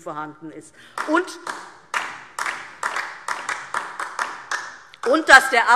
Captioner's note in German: Beifall DIE LINKE